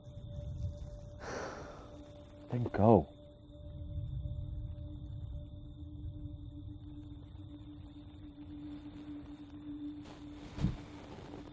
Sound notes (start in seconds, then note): 0.0 crickets chirping; 0.0 tense music; 1.5 Andrea sighs